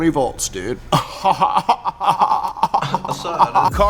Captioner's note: laughs